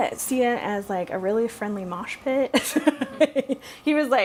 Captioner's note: laughs